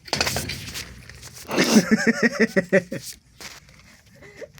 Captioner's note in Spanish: risas